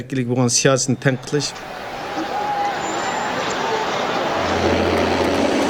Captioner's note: crowd shouting in foreign language